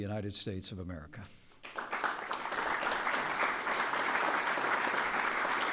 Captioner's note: appaluse